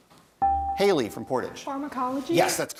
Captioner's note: bell rings